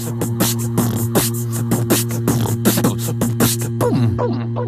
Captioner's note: upbeat music; beatboxing